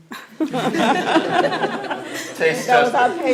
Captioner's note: laughter